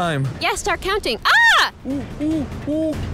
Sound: screams

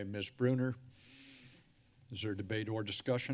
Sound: sigh

